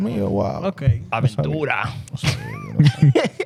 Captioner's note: speaking In Foreign Language